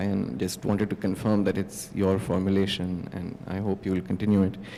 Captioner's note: none